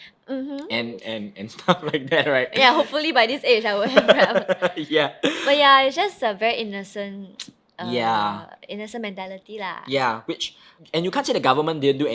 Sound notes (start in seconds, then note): 3.8 laughing